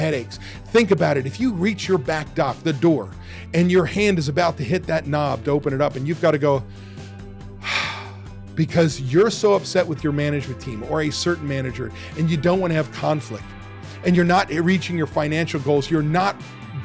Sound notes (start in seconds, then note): 7.6 deep Sigh